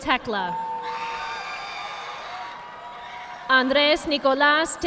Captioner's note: audience applauding